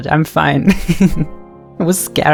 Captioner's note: chuckles